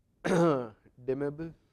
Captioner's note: cough